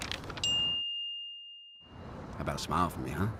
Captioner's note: paper crinkles; ding